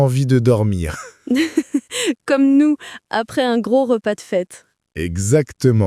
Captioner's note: laughing